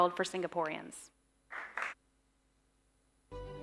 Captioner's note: applause